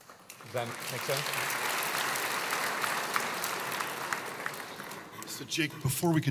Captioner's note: applause